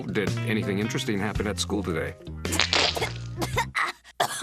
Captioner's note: coughing